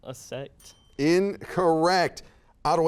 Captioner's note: bell ringing